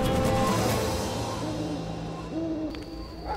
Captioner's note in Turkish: Baykuş sesi; Köpek havlama sesi